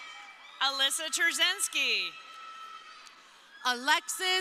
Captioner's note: crowd cheering